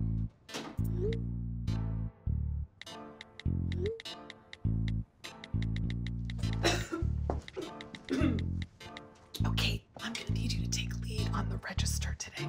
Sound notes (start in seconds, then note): 6.6 Gretchen coughs; 8.7 whispering